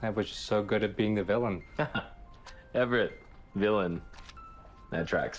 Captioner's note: laughs; instrumental music